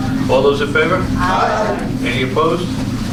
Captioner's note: A chorus of ayes